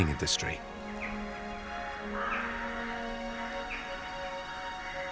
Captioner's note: birds singing; gentle music